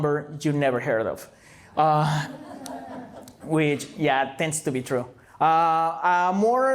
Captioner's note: laughter